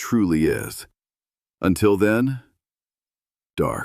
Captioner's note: pause